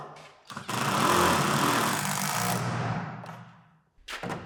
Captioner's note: drill whirring